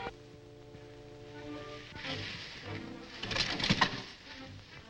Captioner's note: hay rustles